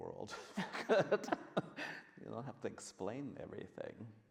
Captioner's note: laughs